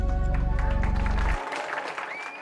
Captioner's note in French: applaudissements